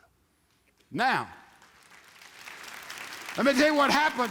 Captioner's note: audience applauds